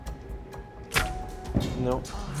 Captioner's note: arrow whooshing